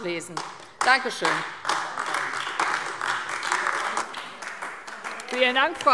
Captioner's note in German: Beifall AfD